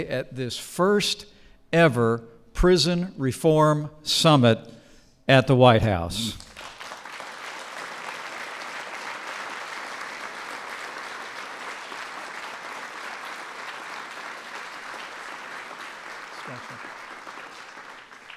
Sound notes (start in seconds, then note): 6.3 applause